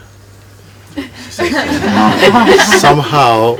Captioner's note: laughter